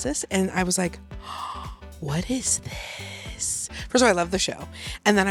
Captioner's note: gasps